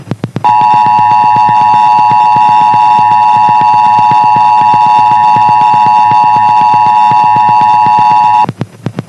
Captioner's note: another 853 KHz / 960 KHz Dual Tone Attention Signal